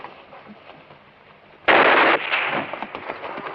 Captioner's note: gunshot